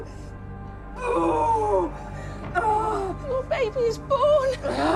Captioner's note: screaming, grunting